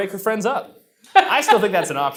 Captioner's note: laughs